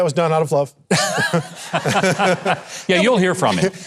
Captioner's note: both laughing